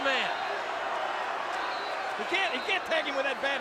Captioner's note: crowd shouting